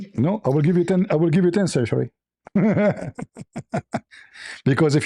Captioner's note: laughter